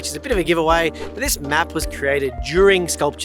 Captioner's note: air whooshing